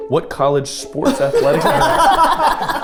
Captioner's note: group laughing